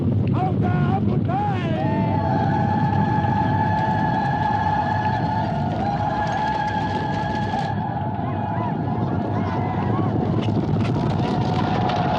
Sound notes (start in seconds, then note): 2.5 cheering